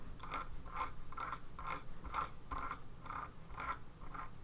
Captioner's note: scrolling on computer page